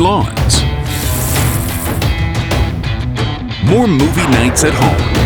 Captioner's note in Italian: acqua che scorre